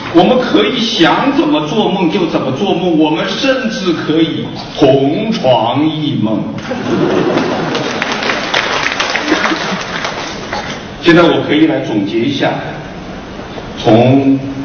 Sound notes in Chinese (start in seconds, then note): 6.6 笑声; 7.2 掌声